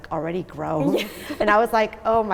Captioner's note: laughing